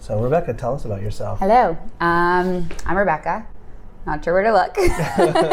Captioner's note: laughs